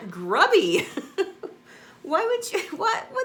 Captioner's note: laughs